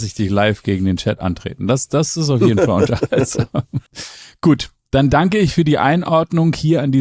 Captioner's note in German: gelächter